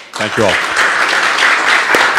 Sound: applause

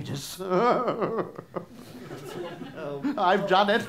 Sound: maniacal laugh

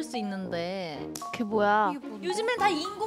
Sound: clapping

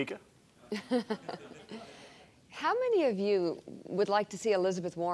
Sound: laughs

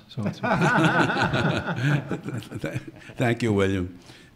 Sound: everyone laughing

